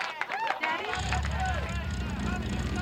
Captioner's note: engine revving